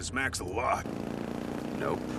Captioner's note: engine sounds